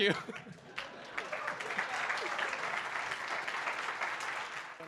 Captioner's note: audience applauding